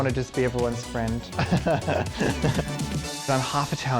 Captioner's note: laughs